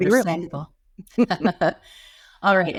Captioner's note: laughs